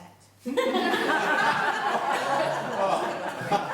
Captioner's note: laughing